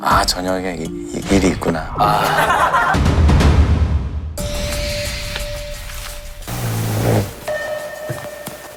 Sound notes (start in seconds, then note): 6.6 zzz